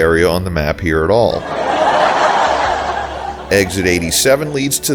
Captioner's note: laugh track